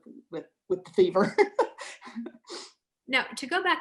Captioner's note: laughs